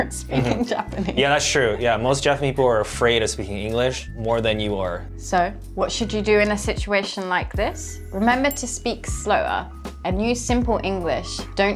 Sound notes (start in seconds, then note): 0.3 chuckling